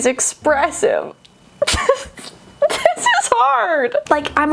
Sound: laughing

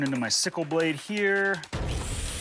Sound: sawing

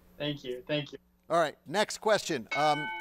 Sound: bell dinging

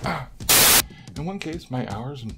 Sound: static

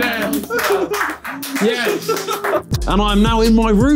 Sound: spectators clapping

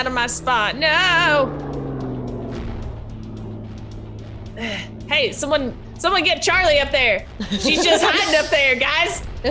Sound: laugh

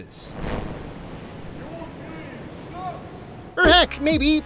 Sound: distant yell

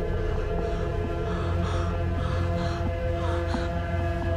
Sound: scared breathing

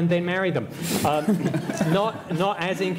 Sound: laughter

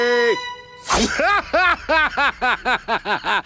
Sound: laughing

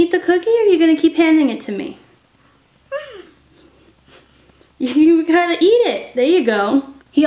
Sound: baby responds with sounds

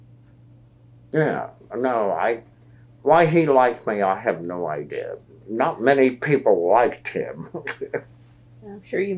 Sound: laughs

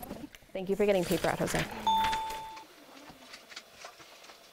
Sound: ding

